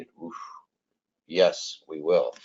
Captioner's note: exhales